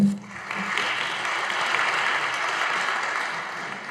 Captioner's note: audience applauding